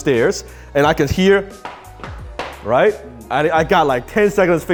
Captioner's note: footstep sounds